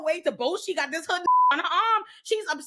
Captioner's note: beep